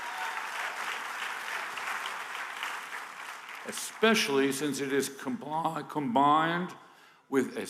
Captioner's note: applause